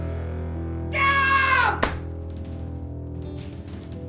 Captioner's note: Ezra screams